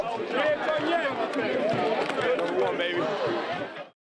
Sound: players Cheering

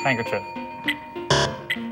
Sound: bell dings

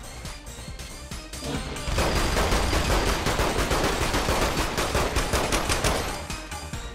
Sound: frantic shooting

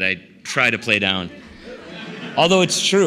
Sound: laughter

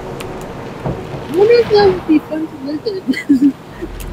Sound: laughs

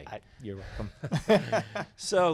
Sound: laughs

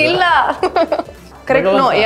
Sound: laughing

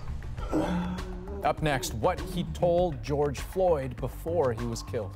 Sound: crying

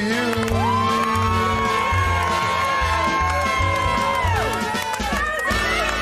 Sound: cheers

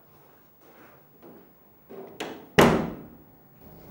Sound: door opens out and shuts

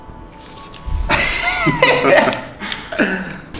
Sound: laughter

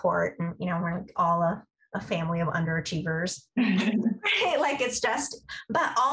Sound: laughter

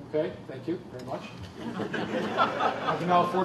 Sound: laughter

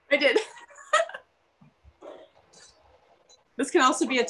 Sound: laughs

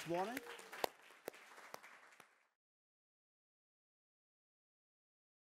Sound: participants applauds

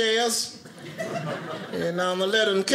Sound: audience laughing

